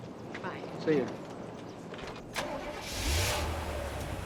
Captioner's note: engine Starts